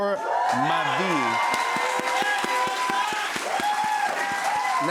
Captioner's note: cheers and applause